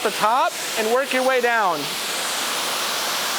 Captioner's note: water running